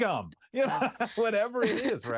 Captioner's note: laughter